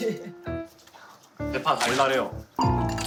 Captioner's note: Crunch